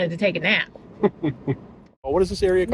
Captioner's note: chuckling